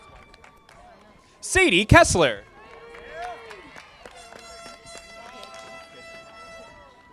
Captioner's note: audience applauding